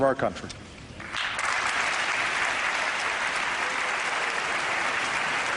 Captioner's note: applause